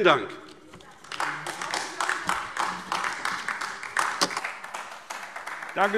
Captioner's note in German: Beifall AfD